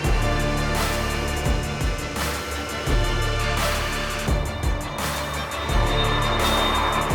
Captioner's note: music/Jet engine spooling up